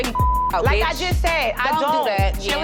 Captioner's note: beep